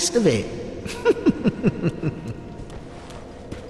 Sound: laughing

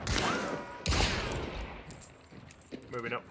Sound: shotgun blast; gunshot

